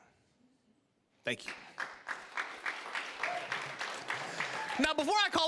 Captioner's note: applause